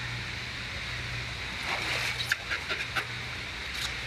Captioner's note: splashing